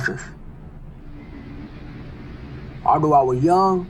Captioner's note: noisy city